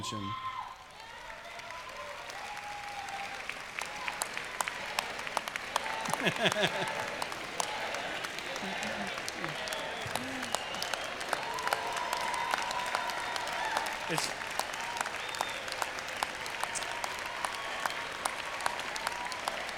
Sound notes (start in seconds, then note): 5.4 chanting jerry, jerry; 11.0 applause